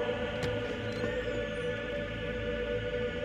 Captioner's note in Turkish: Kapı açılma sesi